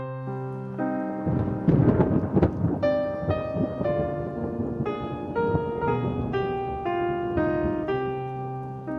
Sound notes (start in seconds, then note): 1.1 thunder cracks